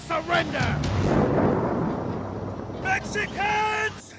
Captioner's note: thundering